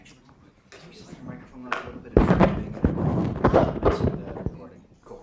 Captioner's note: static